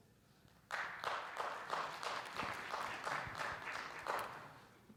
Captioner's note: audience applauds